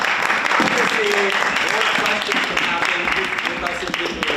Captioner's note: audience applauds; muffled chatter